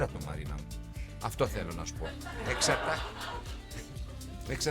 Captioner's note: laughing